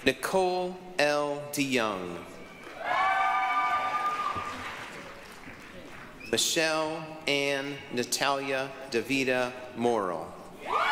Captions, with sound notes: Nicole L. De Young. (applause, cheering) Michelle-Ann Natalia Davida Morle.